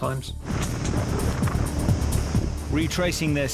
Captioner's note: boat engine revving